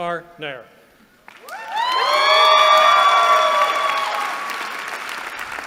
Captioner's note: cheering